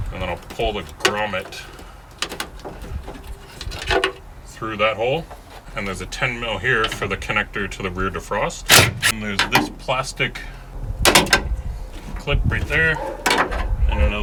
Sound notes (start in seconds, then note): 8.8 drill torquing